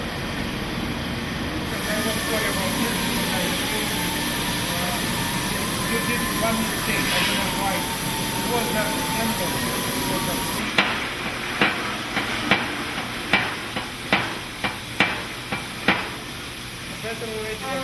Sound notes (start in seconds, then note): 10.9 hammer banging